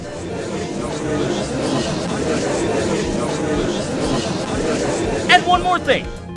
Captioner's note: gallery chattering